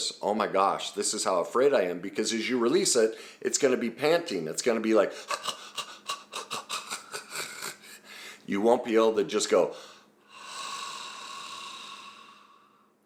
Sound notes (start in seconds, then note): 6.7 staggered exhales; 9.7 exhaling